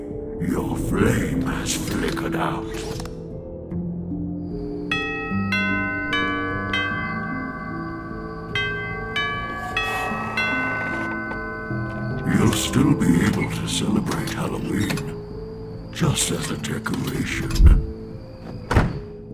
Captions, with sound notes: your flame has flickered out *Elizabeth rings the doorbell* You'll still be able to celebrate Halloween Just as a decoration